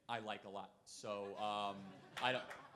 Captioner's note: crowd laughing